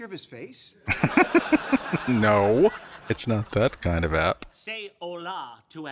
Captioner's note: laughing